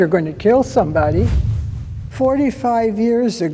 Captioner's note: air whooshes